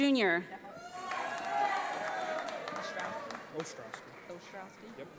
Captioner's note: audience applauds